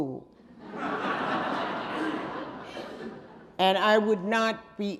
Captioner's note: audience laughing